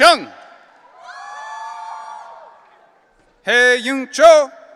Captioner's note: audience cheering